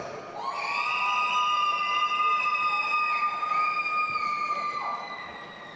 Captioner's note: audience applauding and cheering